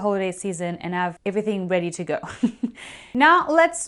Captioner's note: laughing